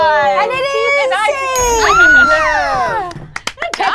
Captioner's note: group cheers